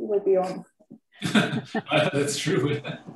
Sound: laughs

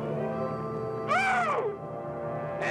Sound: Ev screaming

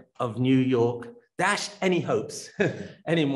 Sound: laughs

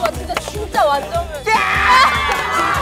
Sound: screams

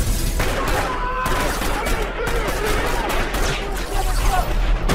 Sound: agents screaming

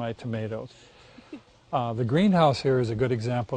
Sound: laughs

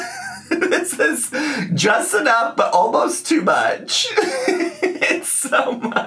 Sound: laughs

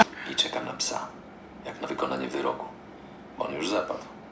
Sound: laugh; foreign language

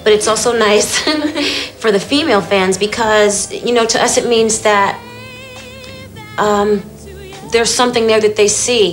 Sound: laughter

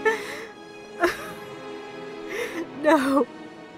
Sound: Leia cries

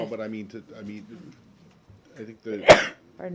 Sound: sneezes

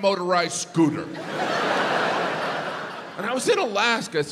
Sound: audience laughs

